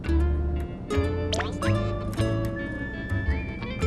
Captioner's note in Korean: 깜짝!